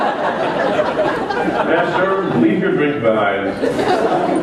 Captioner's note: laughter